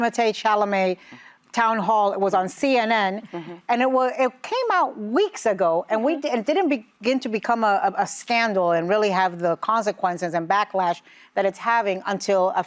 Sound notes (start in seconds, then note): none